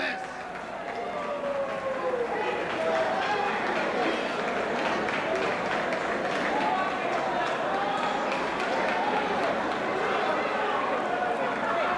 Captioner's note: crowd cheering